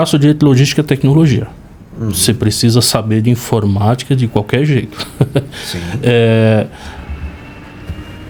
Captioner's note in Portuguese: risadas